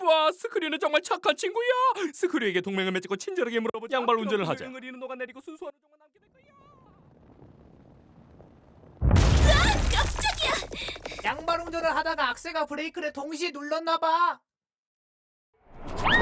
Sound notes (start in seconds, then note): 8.7 distant explosion